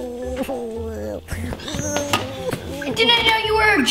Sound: whimpers

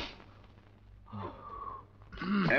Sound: sighs

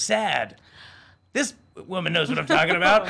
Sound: women gasping

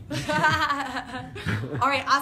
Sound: laughter

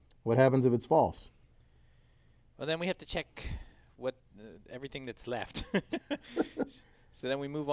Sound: laugh

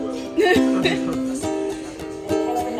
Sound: laugh

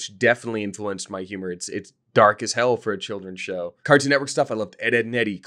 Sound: none

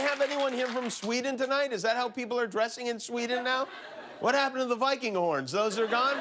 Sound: cheers and applause

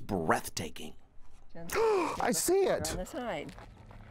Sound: gasps

